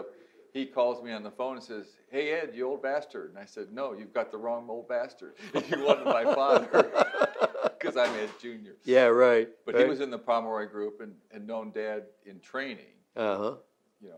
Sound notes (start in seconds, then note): 5.4 laughs